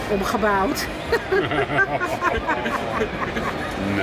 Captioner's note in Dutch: gelach